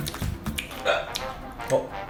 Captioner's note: hiccup